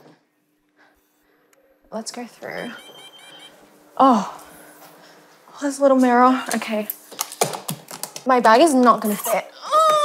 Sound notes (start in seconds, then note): 2.5 machine beeping; 9.5 groaning